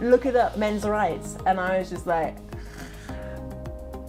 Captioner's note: snores